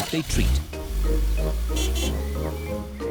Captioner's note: horn honks